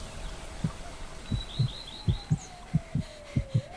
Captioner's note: heartbeat; woman panting